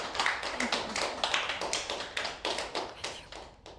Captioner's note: clapping